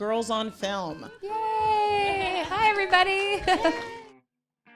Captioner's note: everyone laughs